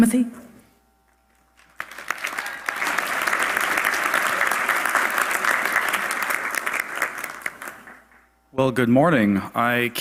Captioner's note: applause